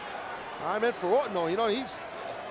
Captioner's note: applause